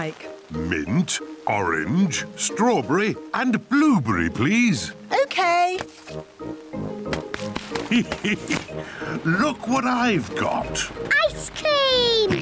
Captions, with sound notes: Mint, orange, strawberry and blueberry, please! Okay! (LAUGHS) Look what I've got! Ice cream!